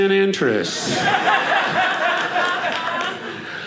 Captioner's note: audience laughing